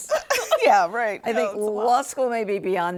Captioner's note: both laughing